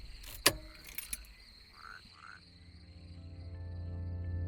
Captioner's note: frogs croaking